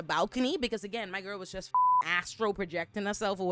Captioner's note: beep